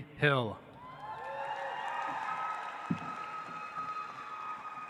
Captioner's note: audience applauds